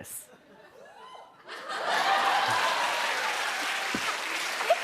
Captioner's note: laughter, cheers, applause